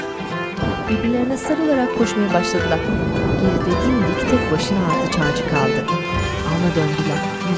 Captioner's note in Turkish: Gök gürleme sesi